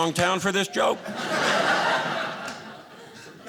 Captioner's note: audience laughing